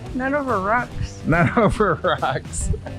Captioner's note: laughing